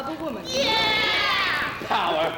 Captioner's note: women cheering